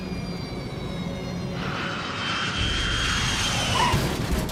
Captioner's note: jet whooshing